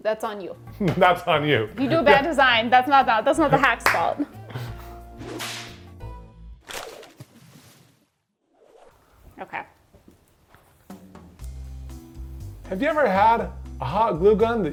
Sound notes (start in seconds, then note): 3.3 laughing; 3.4 hands clapping; 5.2 upbeat music continues; 5.3 whip snapping; 6.8 paper rustling; 10.8 relaxing music